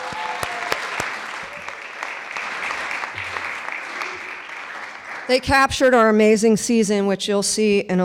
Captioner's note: clapping